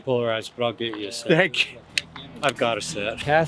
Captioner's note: laughing